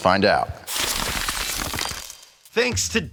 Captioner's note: ice crackling